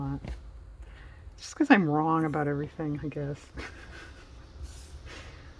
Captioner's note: laughs